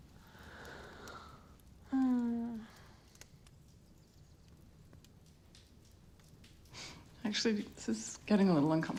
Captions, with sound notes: [Mom sighing] Actually, this is getting a little uncomfortable.